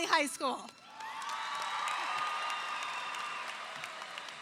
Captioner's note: audience cheering